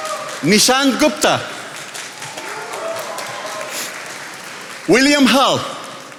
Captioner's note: attendees applauding